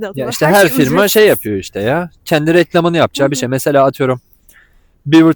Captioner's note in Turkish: kahkaha